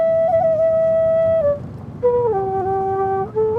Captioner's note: car whirring